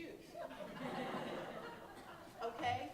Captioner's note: audience laughing